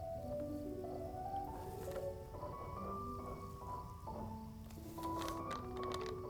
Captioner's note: gentle music continues; insect chirping continues